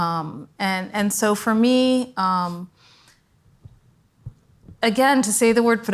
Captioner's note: foreign language